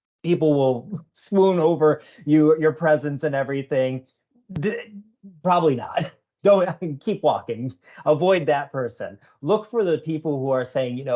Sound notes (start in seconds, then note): 5.8 chuckling